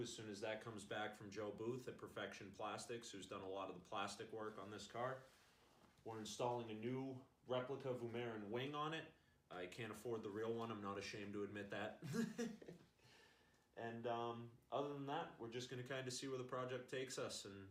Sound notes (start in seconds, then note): 12.0 laughs